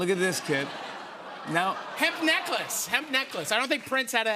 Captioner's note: laughter